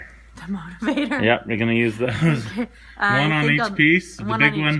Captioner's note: laughing